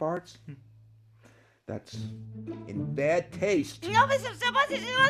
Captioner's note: patient babbles